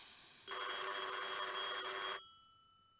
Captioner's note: the phone rings again